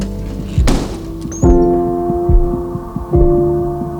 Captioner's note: door thuds